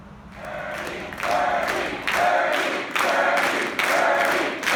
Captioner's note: crowd